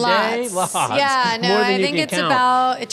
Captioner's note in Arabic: ضحكة مكتومة